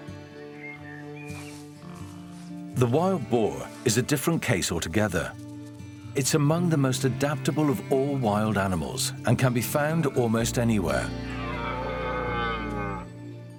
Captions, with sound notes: The wild boar is a different case altogether. It's among the most adaptable of all wild animals and can be found almost anywhere. [stag grunts]